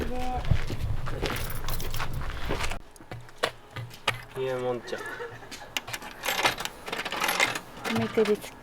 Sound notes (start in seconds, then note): 4.8 laughs